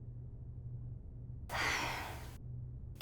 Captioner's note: sighs